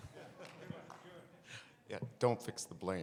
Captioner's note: audience chatter